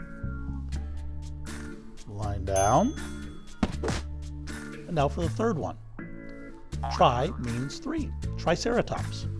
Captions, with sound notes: Line down. (bell dings) And now for the third one. Tri means three. Triceratops.